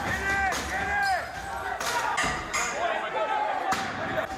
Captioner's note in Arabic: المثيرون للشغب يصرخون